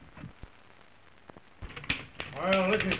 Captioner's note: typewriter clacking